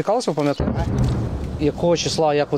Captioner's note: sounds of explosions are heard